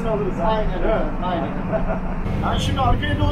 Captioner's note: laughing